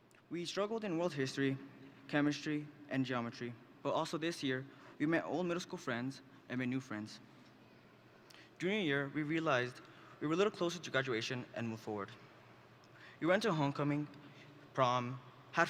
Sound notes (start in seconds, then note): none